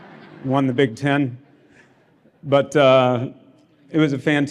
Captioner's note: laughter